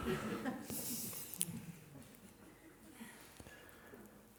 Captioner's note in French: rires